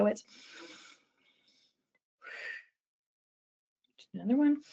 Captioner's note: breathing